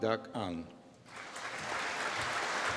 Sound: applause

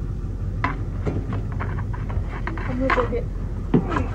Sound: bat slams

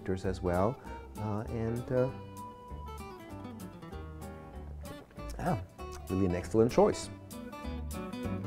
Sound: lips smack

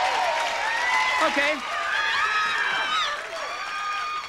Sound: audience applauding

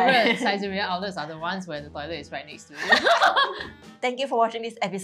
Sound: laughs

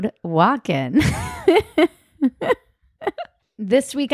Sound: laughing

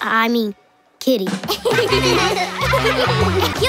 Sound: laughing

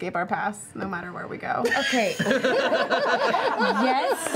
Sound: laughter

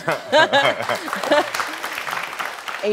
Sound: laughing

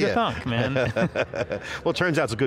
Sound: both laughing

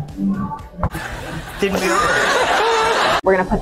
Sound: audience laughing

